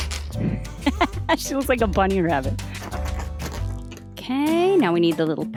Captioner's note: laughs